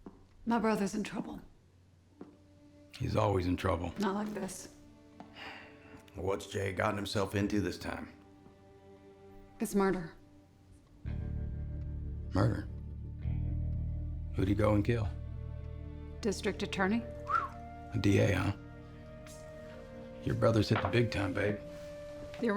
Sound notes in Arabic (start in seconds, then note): 17.2 صفارات